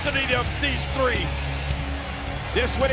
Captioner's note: audience cheers